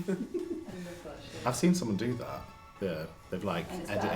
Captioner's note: laughs